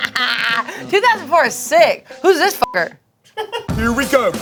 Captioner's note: beep